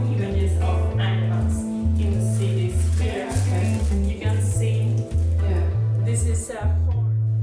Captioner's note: conversation